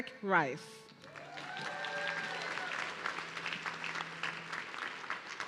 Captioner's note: audience cheering